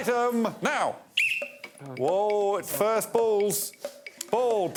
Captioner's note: blows whistle